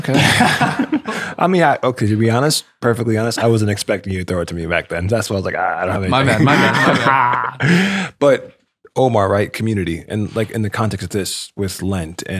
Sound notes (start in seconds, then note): 1.9 all laughing